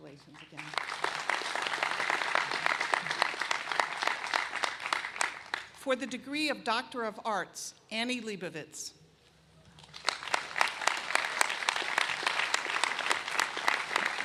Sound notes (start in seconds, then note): 3.2 applause